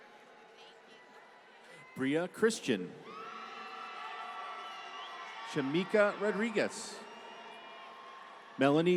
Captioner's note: applause